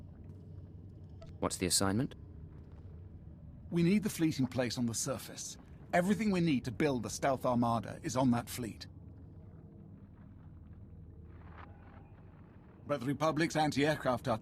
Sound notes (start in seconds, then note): none